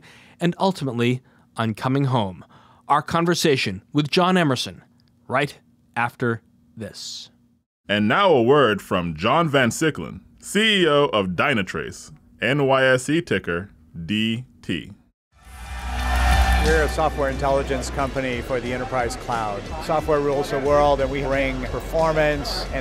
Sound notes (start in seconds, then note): 8.0 voiceover; 15.6 upbeat music